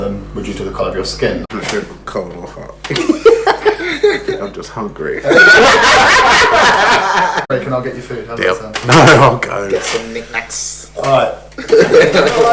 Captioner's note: laughs